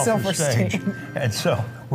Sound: laughs

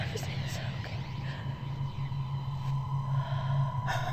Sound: hollow echoing; sighing

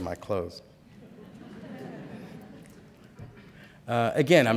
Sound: laughter

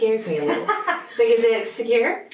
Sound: laughs

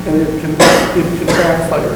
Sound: coughing

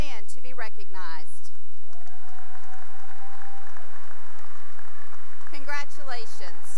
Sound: cheering and applause

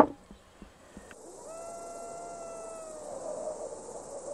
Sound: coyote yelps and crickets chirp

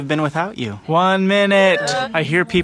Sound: everyone cheers

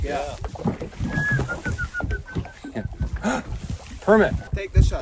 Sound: whistling

